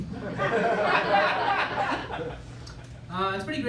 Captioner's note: laughter